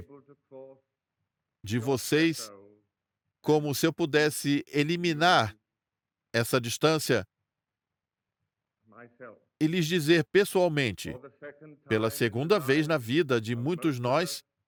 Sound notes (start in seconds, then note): none